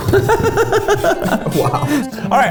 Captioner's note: laughing